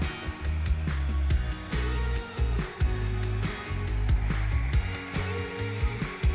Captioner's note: blower whooshing continues; gentle upbeat music